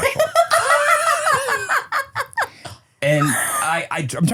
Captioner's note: laugh